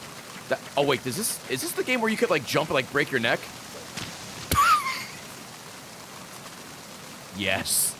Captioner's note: laughs